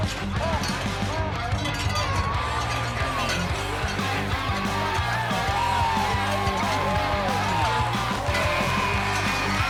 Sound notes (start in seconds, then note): 1.8 crowd cheering; 2.4 cow bell jingling